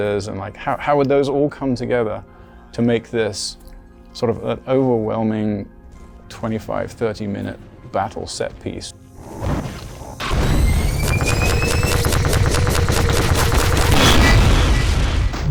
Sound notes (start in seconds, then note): 9.8 sci-fi laser whirring; 10.2 loud laser shots; 10.3 loud shot; 14.1 loud explosion